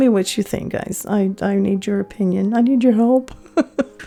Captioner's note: laughing